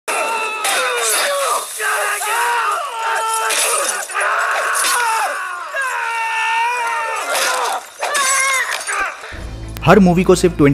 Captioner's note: screaming